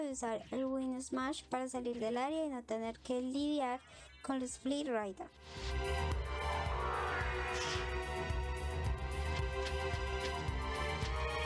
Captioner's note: applause